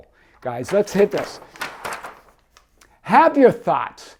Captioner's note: pages fluttering